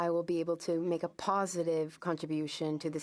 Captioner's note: speaking French